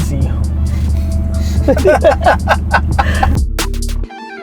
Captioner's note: group laughter